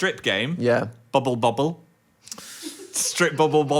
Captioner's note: producer laughs